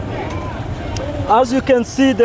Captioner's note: loud street noise